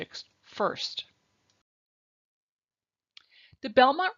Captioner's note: silence